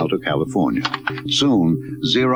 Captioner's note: keys typing